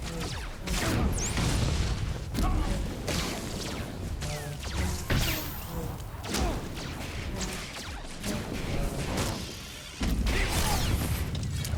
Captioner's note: gunshots